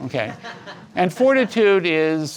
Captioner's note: audience laughs